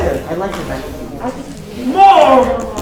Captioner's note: chattering